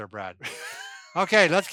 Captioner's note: laughs